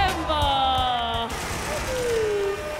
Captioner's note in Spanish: Aplausos